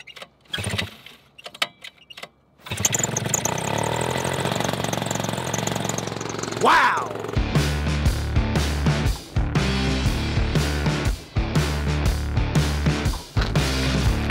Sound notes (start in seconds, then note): 0.5 engine roaring; 7.5 upbeat music